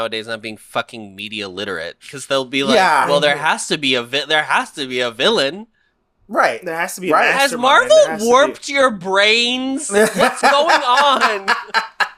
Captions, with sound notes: nowadays not being fucking media literate because they'll be like, Well, there has to be a there has to be a villain. Right. There has to be." Has Marvel warped your brains? [Laughs] What's going on?